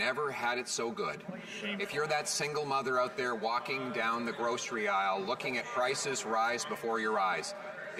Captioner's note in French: voix de l'interprète